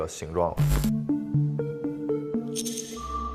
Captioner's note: ding, Entered through Door One